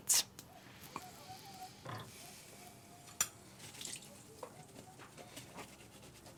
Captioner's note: rag scrubbing; water trickling